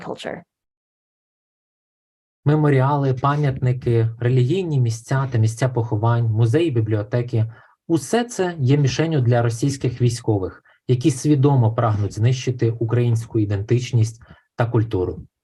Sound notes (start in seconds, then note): 2.6 foreign Language Spoken